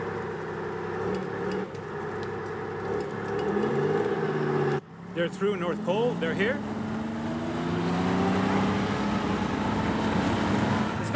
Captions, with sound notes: They're through North Pole, they're here? (tank rumbling) Let's go, get in, everybody get in!